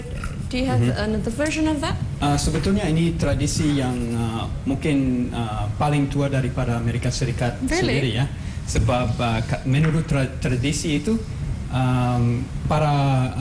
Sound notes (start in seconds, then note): 4.7 non-english speech; 9.5 non-english speech